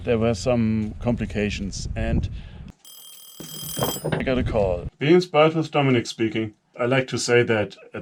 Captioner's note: ringing